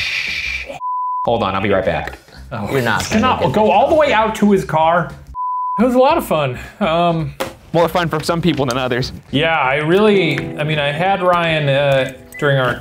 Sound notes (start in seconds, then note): 5.3 beeping